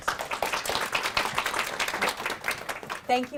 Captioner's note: audience applauding